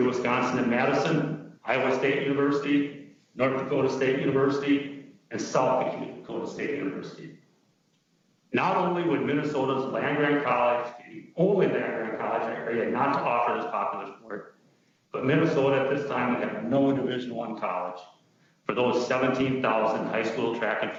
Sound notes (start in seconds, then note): 11.6 distorted sound